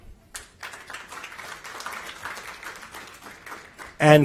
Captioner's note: applause